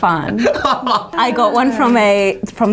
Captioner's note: laughing